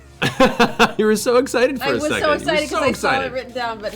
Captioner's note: laughs